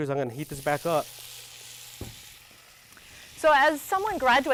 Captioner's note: pan sizzling